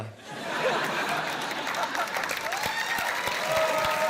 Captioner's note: cheering, applause